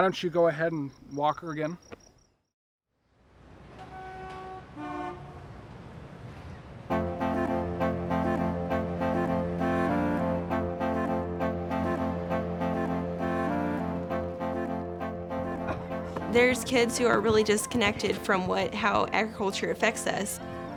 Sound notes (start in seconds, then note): 3.1 traffic noises